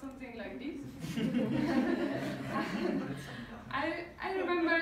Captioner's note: crowd laughing